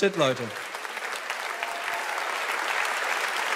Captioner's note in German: Applaus